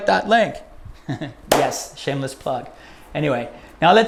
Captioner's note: chuckles; claps